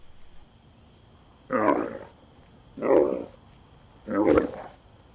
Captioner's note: animal vocalizations